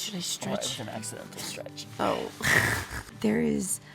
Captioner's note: laughs